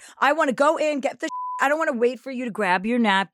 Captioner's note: beep